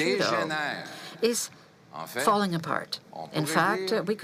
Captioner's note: speaking French